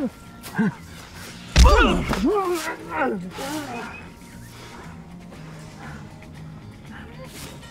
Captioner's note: fist pounds; groans